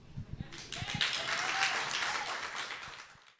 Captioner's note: applause